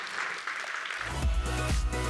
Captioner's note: applause